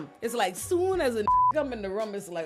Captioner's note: beep